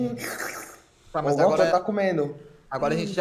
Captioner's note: eating sounds